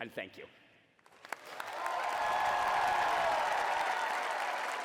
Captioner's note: applause